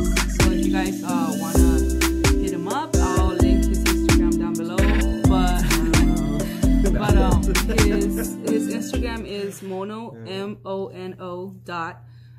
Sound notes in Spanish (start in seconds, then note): 5.6 Risas